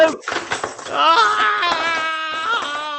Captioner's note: crash